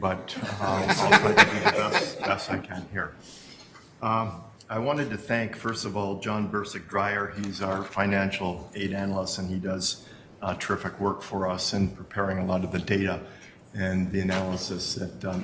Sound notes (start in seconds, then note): 3.1 laughter